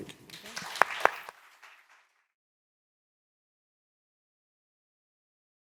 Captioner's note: audience and panel applauding